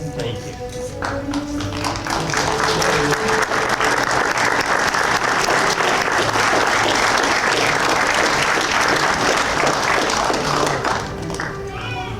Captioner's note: applause